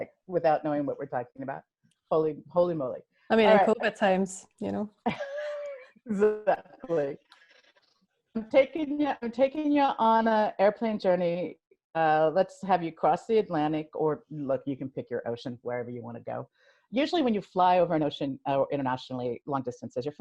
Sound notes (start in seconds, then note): 5.5 laughs